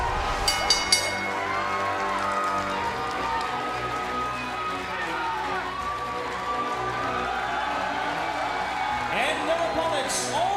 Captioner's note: bell ringing